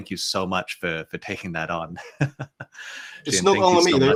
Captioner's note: chuckles